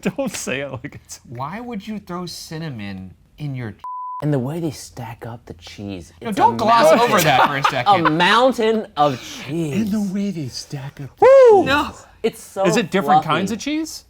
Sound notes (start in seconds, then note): 3.8 beeps; 6.8 laughs